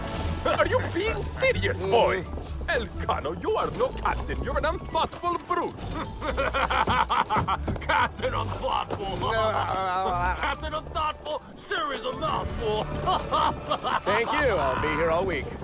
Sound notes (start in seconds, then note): 5.9 he laughs; 12.6 sailor laughs